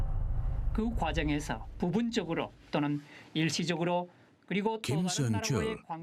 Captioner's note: speaking in foreign language